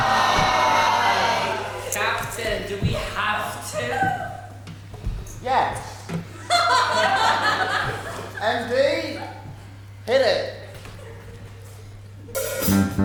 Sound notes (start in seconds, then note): 0.0 Pirates groan; 6.4 audience laughs